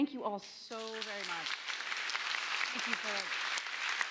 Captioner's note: applause